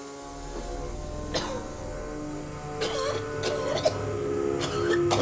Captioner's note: coughs